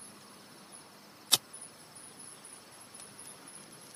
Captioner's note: crickets chirping